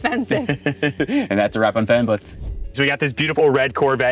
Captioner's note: chuckles